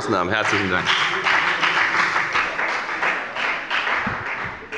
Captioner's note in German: Beifall bei der FDP